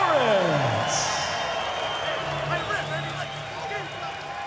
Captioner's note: cheers and applause